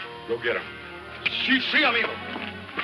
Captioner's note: Mike speaks using foreign language